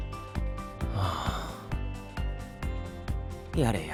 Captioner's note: sigh